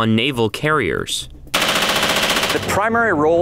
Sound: machine gun firing

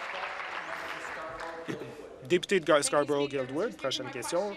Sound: applause

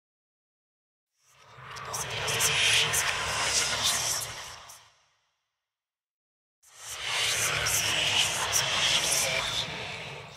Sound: oneiric voices

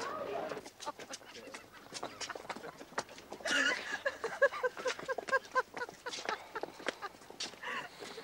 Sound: Anne laughs

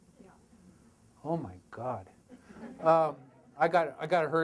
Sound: audience laughter

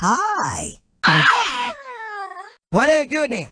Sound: scream

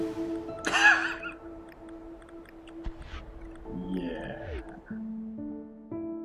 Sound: wheezing laugh

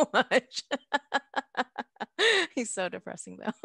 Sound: both laughing

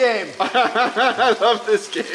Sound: laughing

